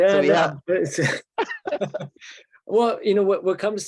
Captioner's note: chuckles